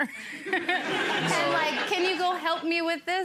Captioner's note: people laughing